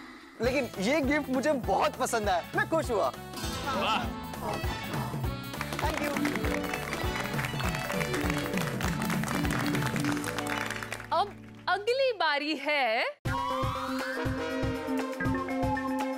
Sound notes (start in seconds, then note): 7.2 applauding; 13.3 suspenseful music playing